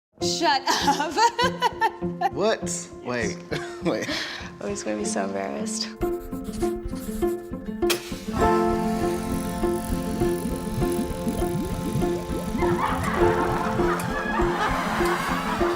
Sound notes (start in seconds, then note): 3.5 laughs; 6.1 title music